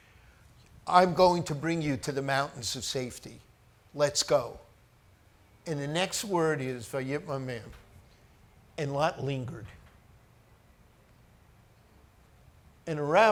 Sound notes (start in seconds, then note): 6.7 speaks foreign language